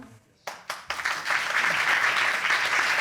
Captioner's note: audience applauding